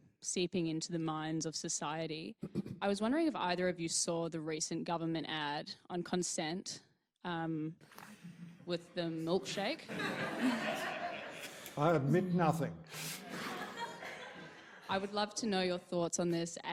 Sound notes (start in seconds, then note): 9.8 audience laughing; 13.0 audience laughing